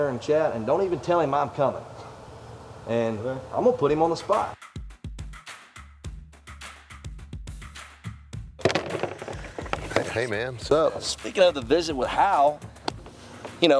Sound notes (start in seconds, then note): 3.9 upbeat music; 8.6 clattering